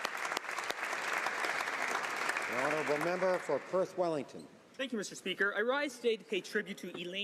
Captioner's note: some Applause